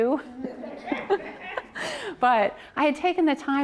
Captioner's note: audience laughs